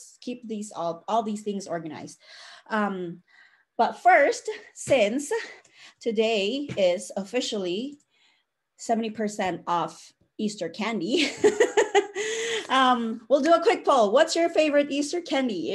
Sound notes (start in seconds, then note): 11.9 laughs